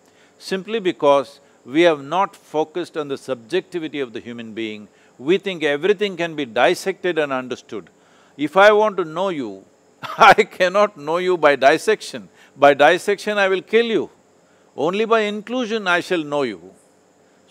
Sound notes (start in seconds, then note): 10.0 laughs